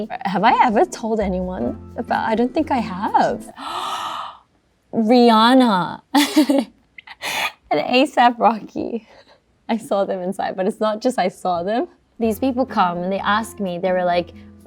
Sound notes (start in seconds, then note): 3.5 gasps; 6.1 chuckles